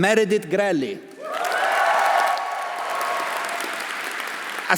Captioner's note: audience applauding; audience cheering